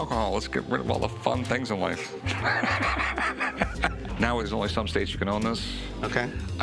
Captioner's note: laughs